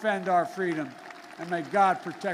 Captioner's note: applause